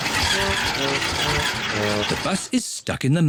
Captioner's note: engine stalls